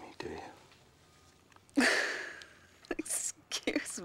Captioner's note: chuckling